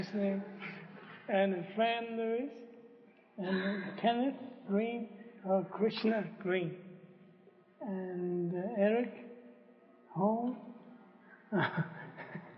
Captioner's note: laughs